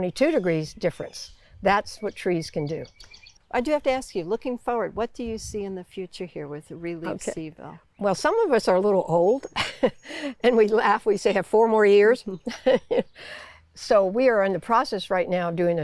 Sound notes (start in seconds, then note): 12.4 chuckles; 15.2 laughs